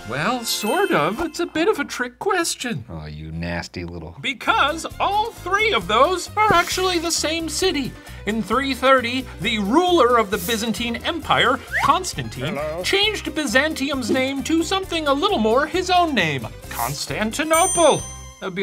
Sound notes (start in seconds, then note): 12.6 voiceover